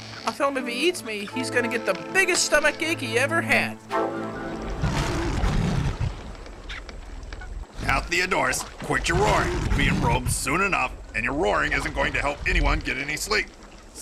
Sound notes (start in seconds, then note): 4.8 lion roaring